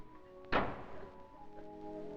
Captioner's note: sound of door slamming